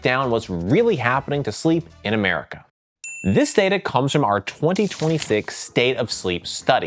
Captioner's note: bell dings